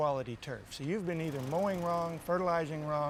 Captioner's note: land mower running